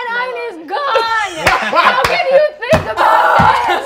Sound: players laughing

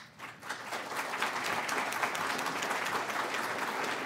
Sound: applause

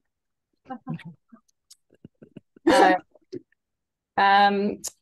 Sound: laughs

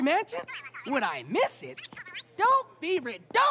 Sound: mutters

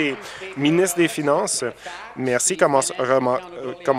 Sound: some Applause

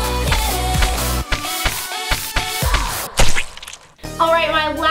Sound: paint squishing

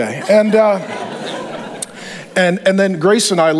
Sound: congregation laughs

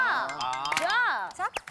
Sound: clapping together

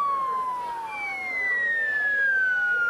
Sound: cheering

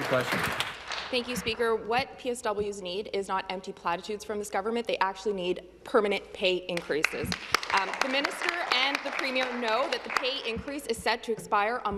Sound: some Applause

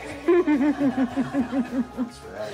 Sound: laughter

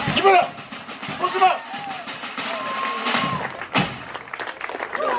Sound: cheering; yelling; clapping

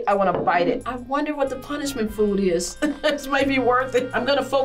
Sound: laughs

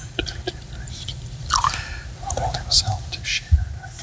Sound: praying softly; splashing; mumbling

